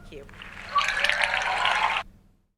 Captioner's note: audience cheers